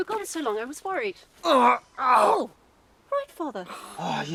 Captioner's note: Ander groaning